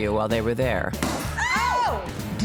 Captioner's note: pop!